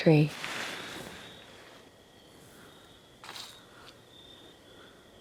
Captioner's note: insects chirping